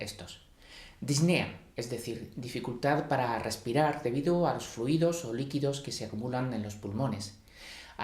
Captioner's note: shortness of breath